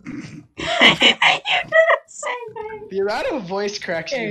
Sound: laughs

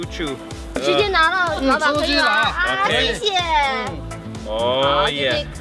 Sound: speaks in foreign language

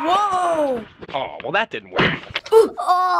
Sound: smack

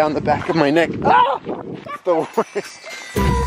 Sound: father screams

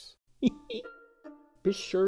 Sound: Stringbean laughs

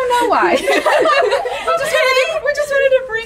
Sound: laughing

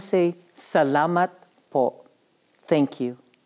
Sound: non-english speech

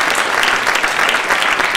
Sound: applause

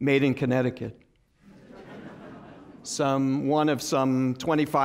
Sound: laughter

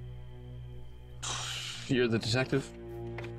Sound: exhales

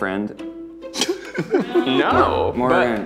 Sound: laughing

